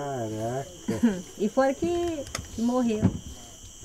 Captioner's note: speaking foreign language